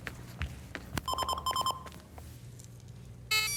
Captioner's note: phone ringing